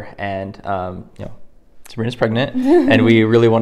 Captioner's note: laughs